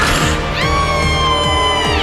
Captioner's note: girlish screams